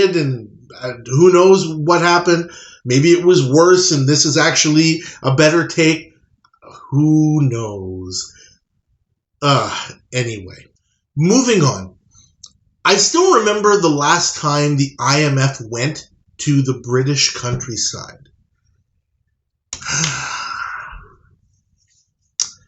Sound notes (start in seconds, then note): 19.8 sigh